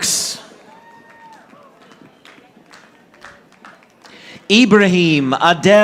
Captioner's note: audience applauding